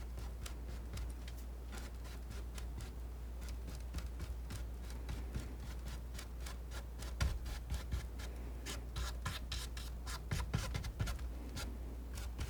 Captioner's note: scratching